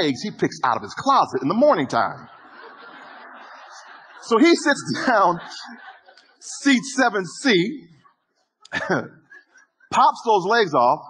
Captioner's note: audience laughter